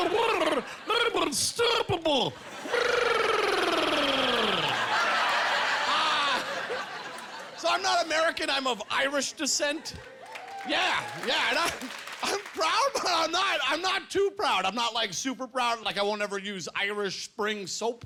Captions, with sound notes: Once I'm in the water, I'm unstoppable." (Gurgling) (Laughing) So, I'm not American. I'm of Irish descent. Yeah. Yeah. I'm proud, but I'm not too proud. I'm not, like, super proud. Like, I won't ever use Irish Spring soap.